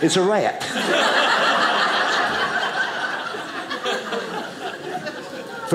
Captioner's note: audience laughing